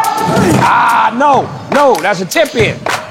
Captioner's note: dunk sound